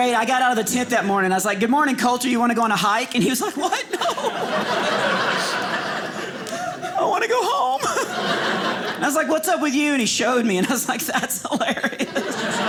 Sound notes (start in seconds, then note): 3.5 audience laughing; 10.6 audience laughing